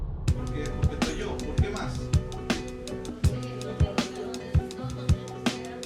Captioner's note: upbeat music; people talking in Spanish